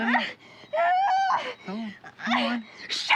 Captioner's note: screams